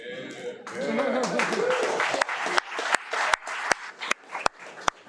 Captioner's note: audience applauding